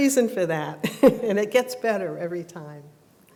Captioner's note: laughs